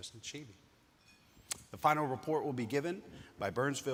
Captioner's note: utensil clinking